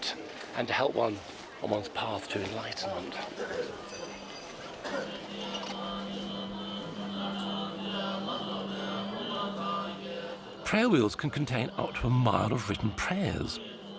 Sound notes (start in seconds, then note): 5.7 chanting